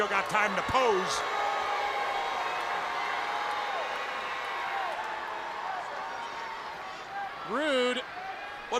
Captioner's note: crowd cheering